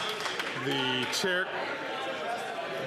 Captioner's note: some Applause